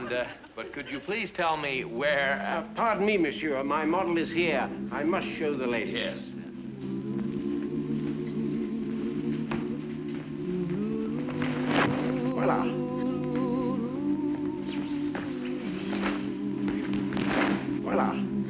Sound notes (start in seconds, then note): 7.1 chorus humming; 7.1 fabric rustling